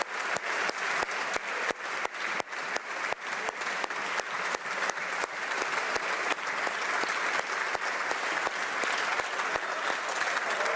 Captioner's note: applause